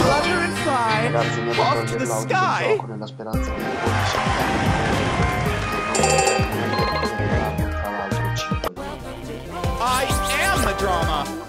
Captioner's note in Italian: Applauso